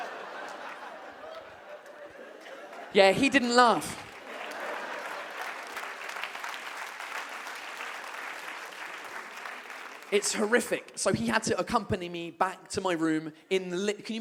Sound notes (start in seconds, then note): 4.7 audience claps